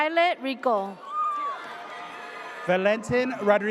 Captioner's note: audience cheers